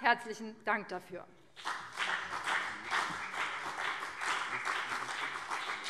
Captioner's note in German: Beifall BÜNDNIS 90/DIE GRÜNEN und CDU